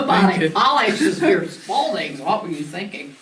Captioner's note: laughs